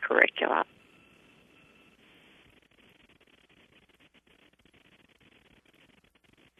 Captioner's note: pause